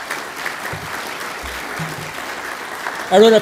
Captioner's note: applause